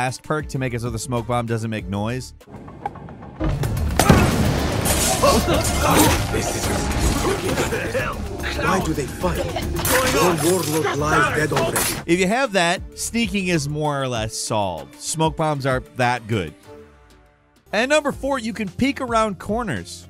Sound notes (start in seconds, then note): 5.1 characters groan and cough